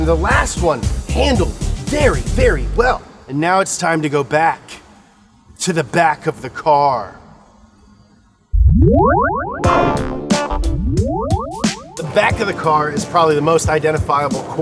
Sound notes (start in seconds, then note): 8.5 electronic tones reverberate; 9.6 mellow jazz music